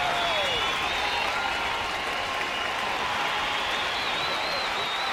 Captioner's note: crowd cheers